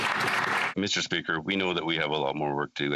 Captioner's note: some Applause